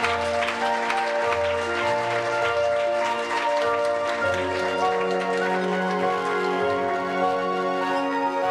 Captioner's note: applause